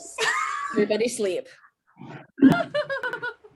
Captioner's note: laughing